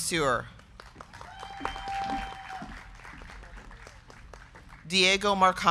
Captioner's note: crowd clapping; crowd cheering